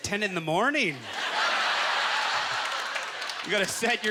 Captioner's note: audience laughter